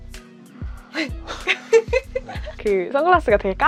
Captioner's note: hahahahaha